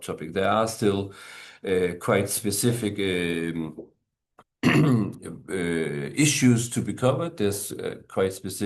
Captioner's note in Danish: clears throat